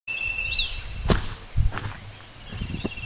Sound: footsteps

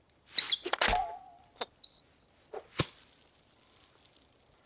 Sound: frantic chirping

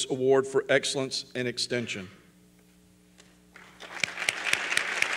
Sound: applause

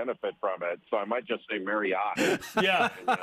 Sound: laughter

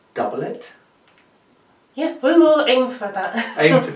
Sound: laughs

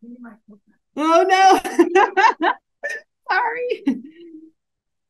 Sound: laughs

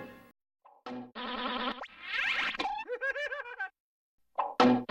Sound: cartoon sounds resuming

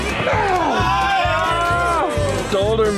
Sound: cheering

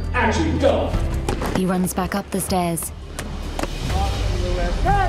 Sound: footsteps thudding

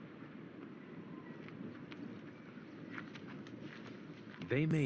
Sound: footsteps

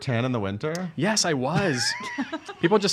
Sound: laughing

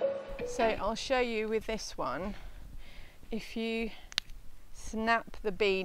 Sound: snap

